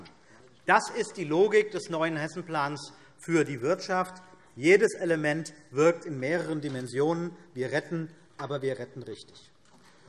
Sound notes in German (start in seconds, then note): none